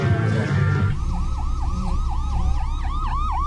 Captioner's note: siren wails